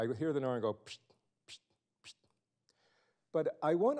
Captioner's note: fast air sounds